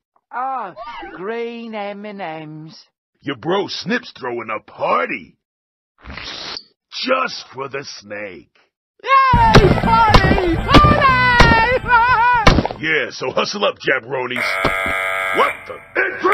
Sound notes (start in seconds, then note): 14.4 alarm goes off